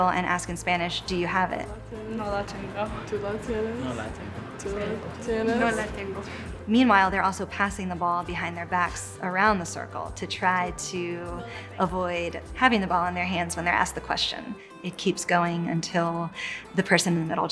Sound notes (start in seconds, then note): 2.5 students speaking in Spanish language